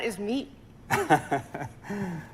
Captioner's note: laughter